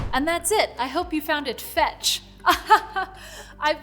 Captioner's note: chuckling